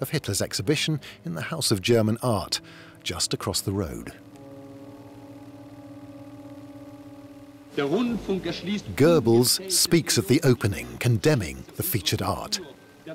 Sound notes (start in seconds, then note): 7.8 speaking German